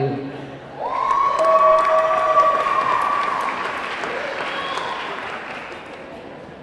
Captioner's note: audience cheering; audience clapping